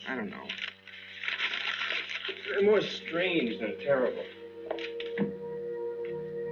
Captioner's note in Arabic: يتجعد الورق